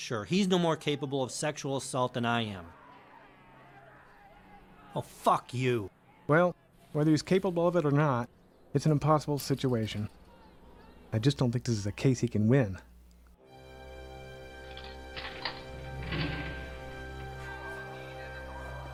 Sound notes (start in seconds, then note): 13.4 solemn music; 14.6 prison doors clanking